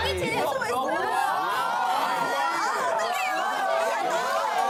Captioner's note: chaotic and noisy classroom